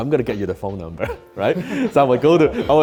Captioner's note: men laughing